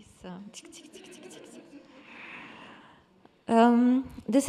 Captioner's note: attendees laughing